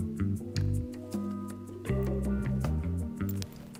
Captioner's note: heart pounding